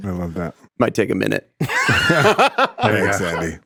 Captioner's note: laughs